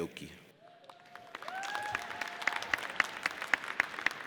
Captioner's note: audience cheers